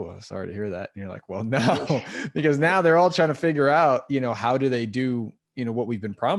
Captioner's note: laugh